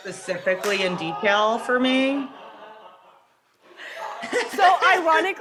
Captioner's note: laughter